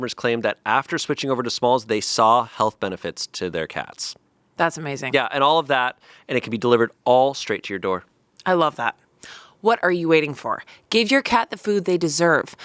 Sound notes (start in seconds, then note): none